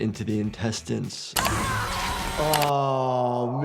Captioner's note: yells